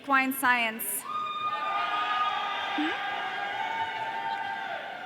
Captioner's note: audience cheering